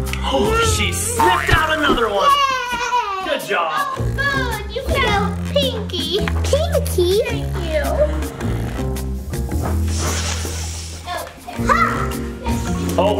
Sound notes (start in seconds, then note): 0.2 gasps; 9.8 sniffs